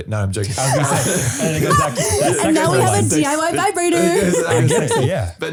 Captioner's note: laughing